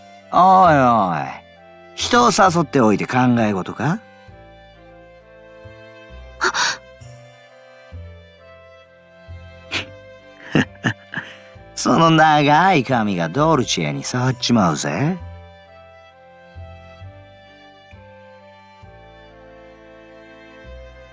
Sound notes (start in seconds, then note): 10.4 chuckle